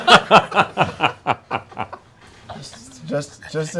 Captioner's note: laughter